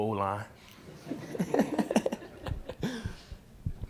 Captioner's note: laughing